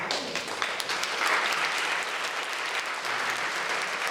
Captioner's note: audience clapping